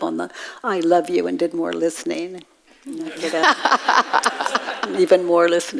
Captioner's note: audience laughs